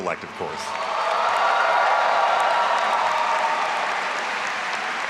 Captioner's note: all applauding and cheering